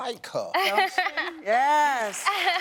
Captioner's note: laughs